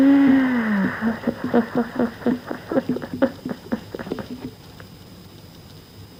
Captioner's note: laughs